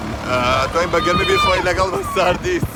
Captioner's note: kids screaming hahha they thought i was talking to them hahah so nice